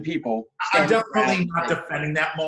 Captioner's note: murmurs